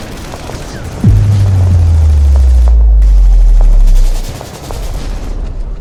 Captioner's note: boom resounds; guns blasting